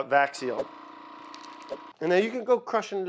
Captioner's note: machine whirs